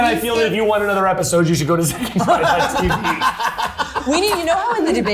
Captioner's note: laughing